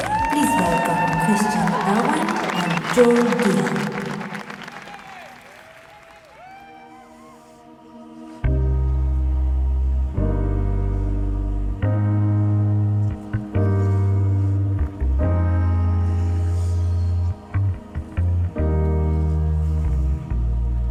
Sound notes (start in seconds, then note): 5.3 audience cheering; 7.1 sentimental music